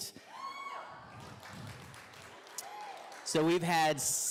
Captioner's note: audience cheering